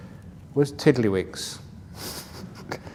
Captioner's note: laughs